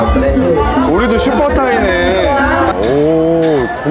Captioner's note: laughing